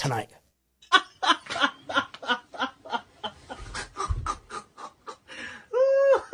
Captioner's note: Ketawa